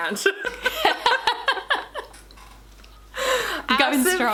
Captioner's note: both laughing